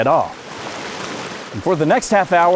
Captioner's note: water flowing